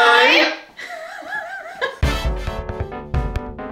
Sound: laughing; upbeat music

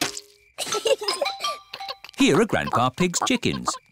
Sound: both giggle

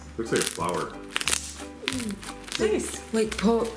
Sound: whispers; slime crackling

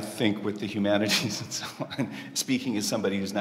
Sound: laughs

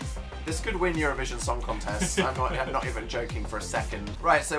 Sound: laughs

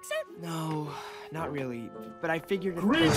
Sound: sighs

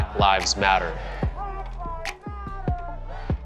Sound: crowd

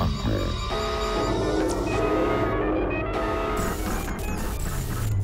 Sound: computer beeping noises; electronic typing sound

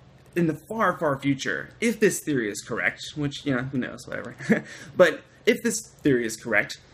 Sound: laughter

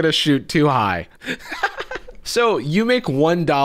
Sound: laughing

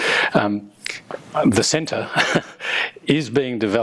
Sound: chuckles

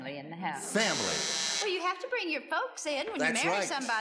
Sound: buzzes

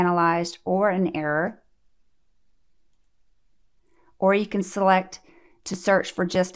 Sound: click

